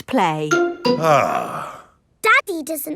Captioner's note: sighs